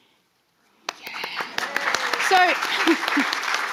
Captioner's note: audience applauding